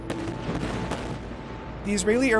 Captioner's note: explosions